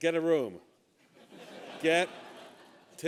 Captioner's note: laughter